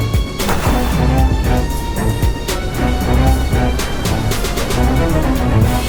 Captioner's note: heaving